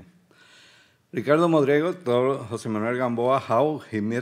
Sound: speaking Spanish

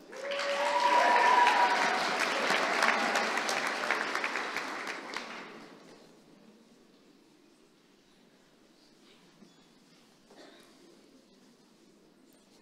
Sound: applause

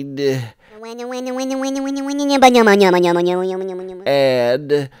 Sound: funny motor sound goes

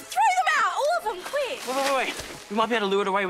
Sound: stammers

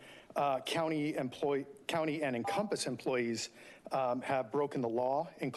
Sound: beeping

